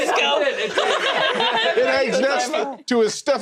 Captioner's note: giggling